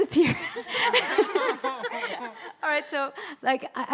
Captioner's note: audience laughing